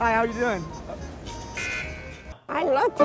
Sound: buzzer buzzing

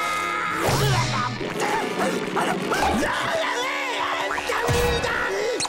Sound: screaming; screaming

